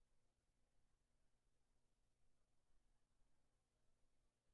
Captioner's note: none